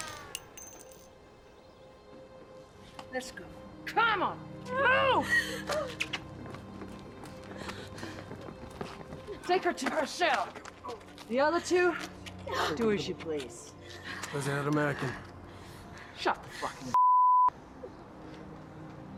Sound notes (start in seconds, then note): 4.8 sobbing